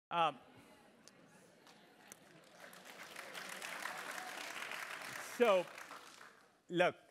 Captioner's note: applause